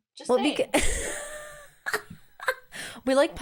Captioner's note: laughs